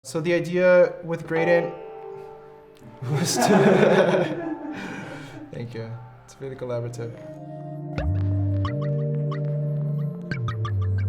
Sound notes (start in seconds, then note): 1.3 instrument sounds; 3.0 laughs; 8.8 smooth upbeat music